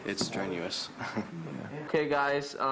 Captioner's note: chuckles